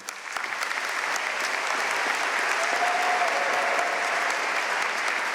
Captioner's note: audience cheering and applauding